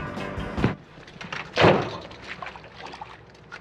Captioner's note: doors thumping; water sloshing